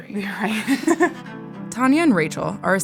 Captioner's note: laughs